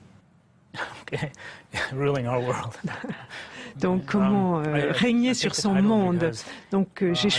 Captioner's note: laughs